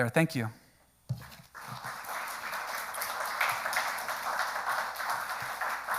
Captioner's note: audience applauds